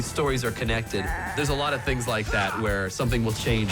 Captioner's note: bleats